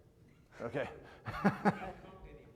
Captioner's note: laughs